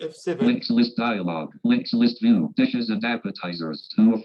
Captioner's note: automated Voice